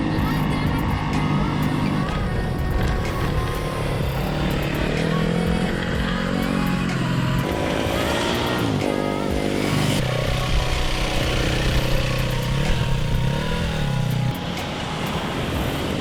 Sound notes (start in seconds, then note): 0.0 engines revving and drowning out singing; 5.2 engines revving and drowning out singing